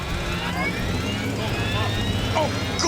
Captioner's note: equipment whirring